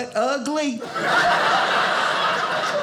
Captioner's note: audience laughing